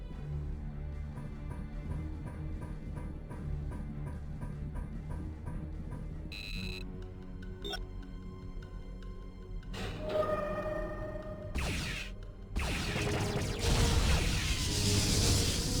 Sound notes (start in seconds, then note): 0.2 beeping; 7.5 explosion